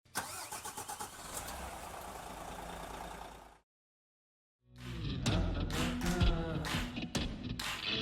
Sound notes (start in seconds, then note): 0.0 engine starting; 4.8 upbeat rock music